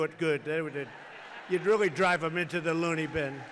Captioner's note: laughter